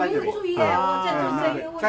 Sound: mandarin

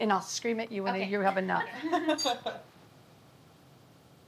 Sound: laughter

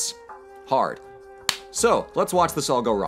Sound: clap

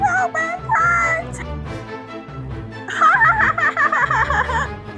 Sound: laughs

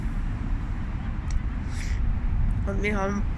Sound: background noise & sniffling

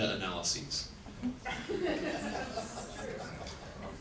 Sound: audience laughs

